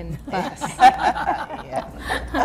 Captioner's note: laughing